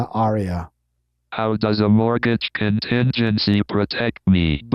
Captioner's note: automated Voice